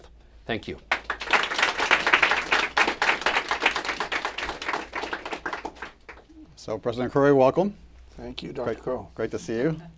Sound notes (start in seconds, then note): 0.8 applause